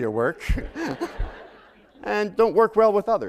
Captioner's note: laughter